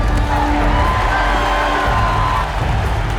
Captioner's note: cheering intensifies